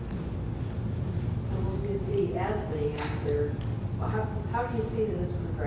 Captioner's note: voiceover